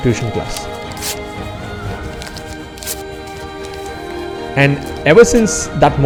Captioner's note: paper ripping